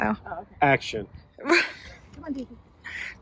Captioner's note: laughs